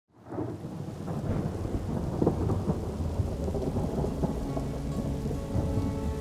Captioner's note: rain pattering; thunder rumbling